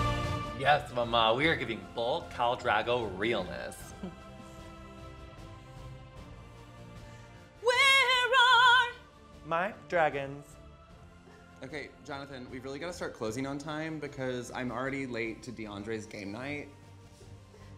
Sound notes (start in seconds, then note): 3.9 laughs